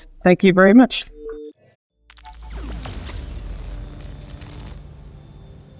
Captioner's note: electronic warbling